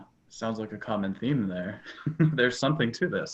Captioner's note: laughs